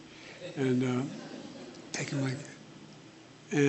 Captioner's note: laughter